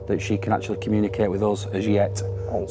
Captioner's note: none